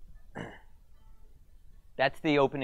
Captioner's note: cellphone rings